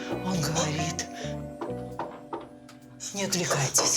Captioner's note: knocks on door